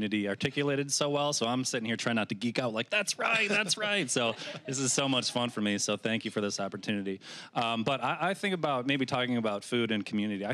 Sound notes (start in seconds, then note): 3.2 audience laughing